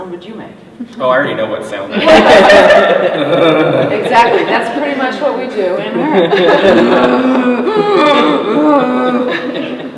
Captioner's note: growls